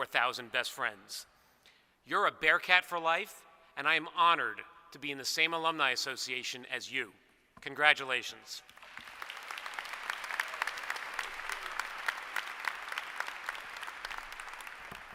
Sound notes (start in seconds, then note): 12.9 applause